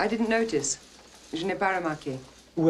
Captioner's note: speaking french